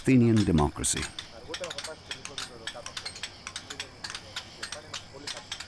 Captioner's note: chisels tapping